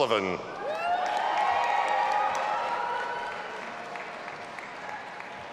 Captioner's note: audience applauding and cheering